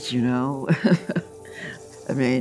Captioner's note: chuckles